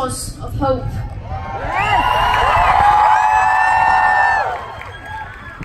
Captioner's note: applause